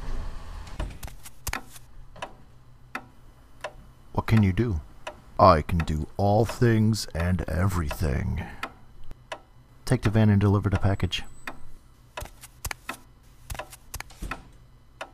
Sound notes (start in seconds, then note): 0.0 footsteps; 13.3 footsteps; 14.1 door closing